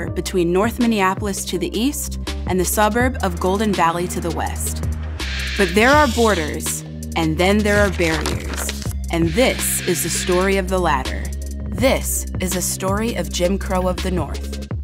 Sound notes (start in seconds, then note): 7.7 map unrolls